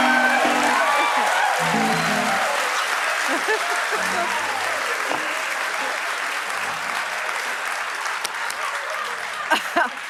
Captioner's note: applause